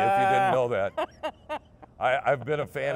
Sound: laughing

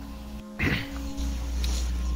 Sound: ahem

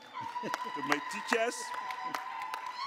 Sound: applause

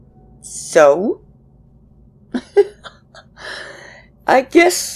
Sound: laughs

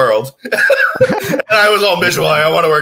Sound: laughs

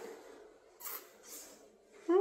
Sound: sucks teeth

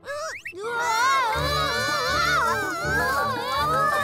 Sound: all screaming

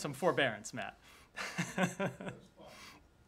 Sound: laughter

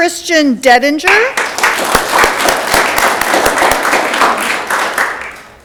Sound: audience clapping

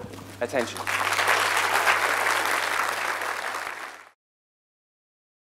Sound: applause

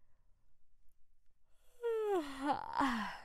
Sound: yawns

